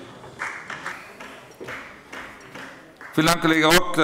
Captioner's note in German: Beifall bei der FDP